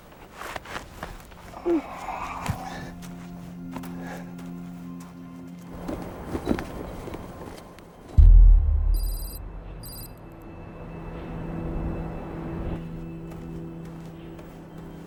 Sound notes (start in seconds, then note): 1.4 woman groaning; 5.6 flag rustling; 7.9 text clicking; 8.1 tense music